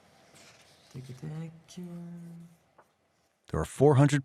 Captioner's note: murmuring